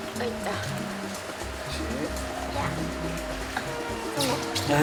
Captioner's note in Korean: 낑낑대는 소리